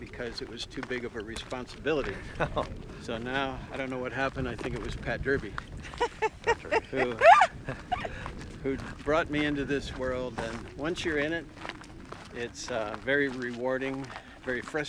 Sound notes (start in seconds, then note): 2.0 chuckling; 5.8 laughing